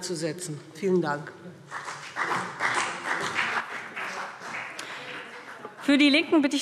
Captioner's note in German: Beifall BÜNDNIS 90/DIE GRÜNEN und vereinzelt CDU